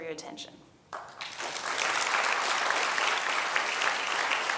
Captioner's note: applause